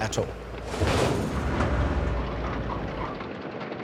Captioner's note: jeep thudding